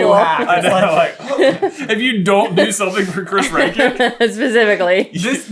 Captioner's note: laughing